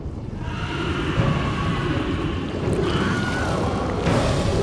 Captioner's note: people screaming